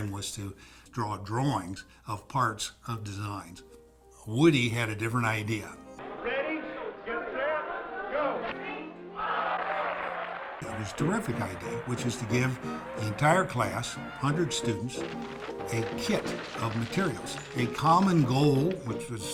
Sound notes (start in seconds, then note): 9.0 crowd groans